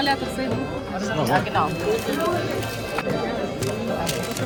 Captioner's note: speaking German